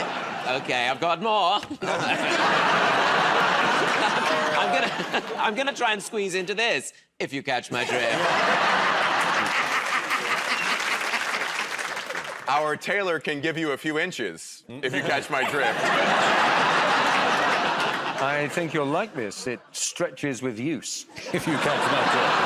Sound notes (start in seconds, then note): 1.6 laughter; 7.8 laughter; 8.9 applause; 14.8 laughter; 21.1 laughter